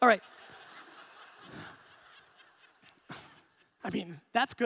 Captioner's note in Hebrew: הקהל צוחק